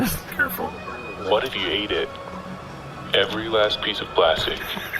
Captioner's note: hushed